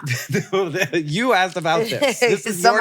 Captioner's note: laughs